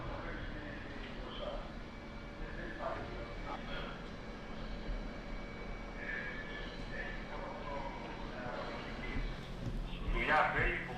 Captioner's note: radio chatter in Greek